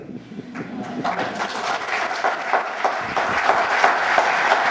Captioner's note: applause